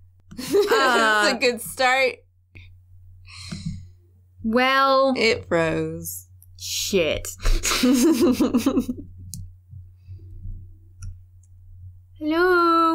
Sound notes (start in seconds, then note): 7.4 laughter